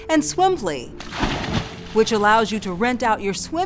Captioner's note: water splashes